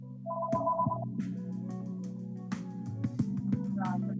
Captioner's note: phone rings